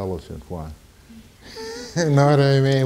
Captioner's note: laughing